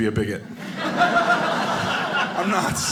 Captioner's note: audience laughing